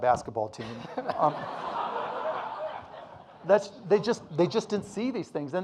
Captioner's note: audience laughing